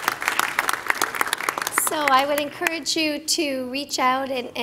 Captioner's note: applause